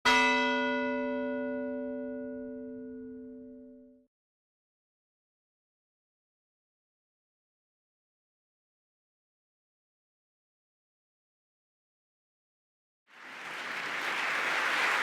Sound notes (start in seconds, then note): 0.4 bell ringing